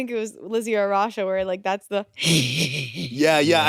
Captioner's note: chuckles